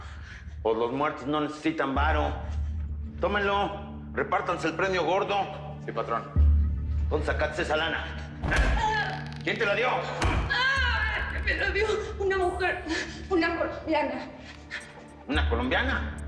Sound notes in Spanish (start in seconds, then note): 8.4 Quejidos; 10.2 Golpes; 12.0 Quejidos